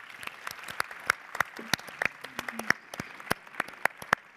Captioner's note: audience applauding